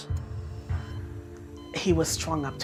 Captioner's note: machines beeping